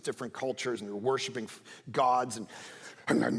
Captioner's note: speaking in tongues